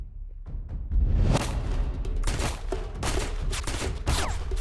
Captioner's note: shots firing